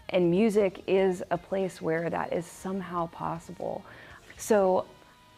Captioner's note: none